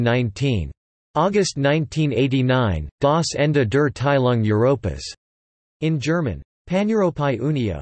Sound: in German

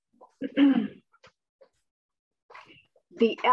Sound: clears throat

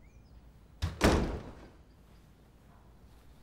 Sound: the door closing sound

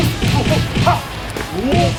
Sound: yells

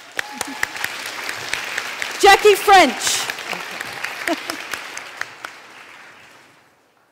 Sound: applause

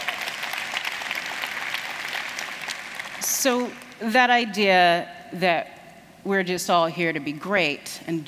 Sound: applause

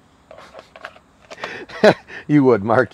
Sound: laughing

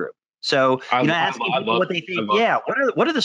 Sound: both chattering

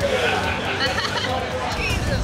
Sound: blonde girl laughs

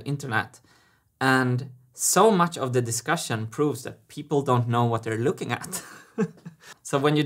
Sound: chuckles

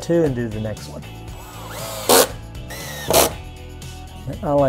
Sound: drilling sound

